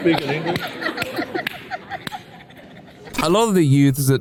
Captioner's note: laughter